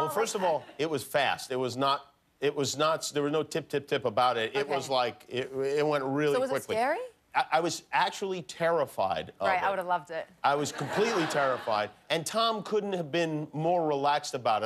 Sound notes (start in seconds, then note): 8.9 laughter